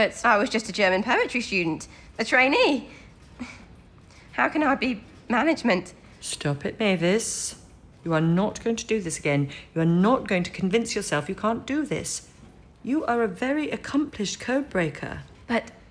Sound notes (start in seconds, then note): none